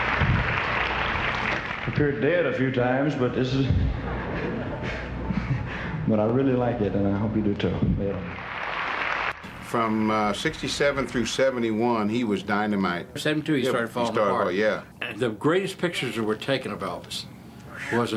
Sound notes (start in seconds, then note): 8.2 audience cheering